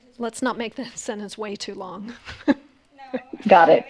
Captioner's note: laughs